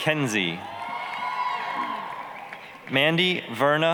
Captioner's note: applause, cheering